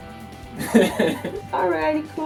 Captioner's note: laughs